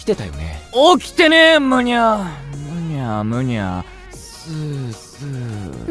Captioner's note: sleeping sounds; sleep mumbling